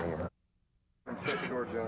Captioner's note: muted